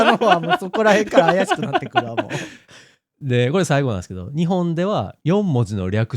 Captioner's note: laughs